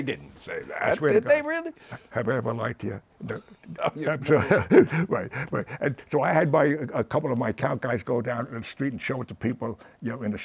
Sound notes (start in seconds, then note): 0.7 laughs; 3.2 chuckles